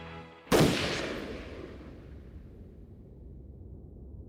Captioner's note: gunshot